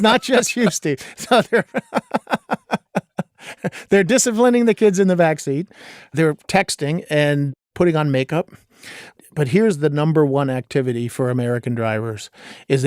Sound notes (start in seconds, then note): 0.0 laughing